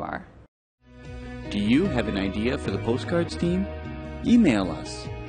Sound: voiceover

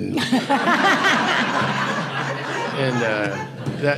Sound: audience laughing

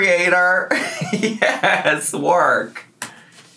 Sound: laughs

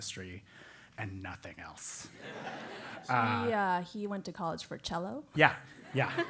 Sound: laugh; laugh

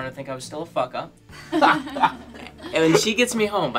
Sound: laughing

